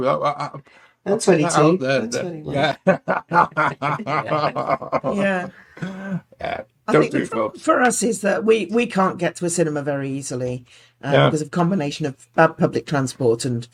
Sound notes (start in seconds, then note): 2.6 laughing